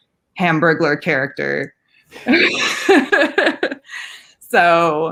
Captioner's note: laughing